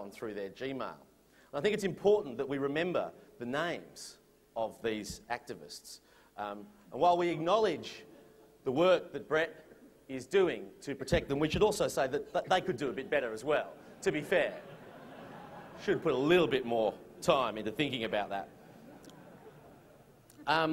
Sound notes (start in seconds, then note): 14.4 laughter